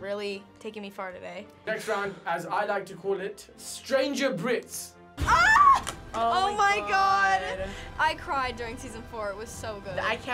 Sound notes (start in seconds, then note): 5.2 screams